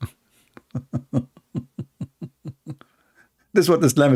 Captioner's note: Ketawa